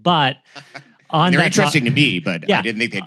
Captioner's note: chuckles